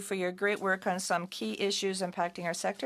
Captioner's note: speaking in French